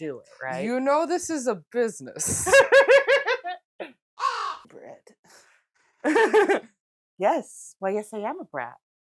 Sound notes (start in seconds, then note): 4.2 caw